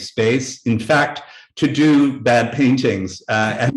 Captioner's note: chuckling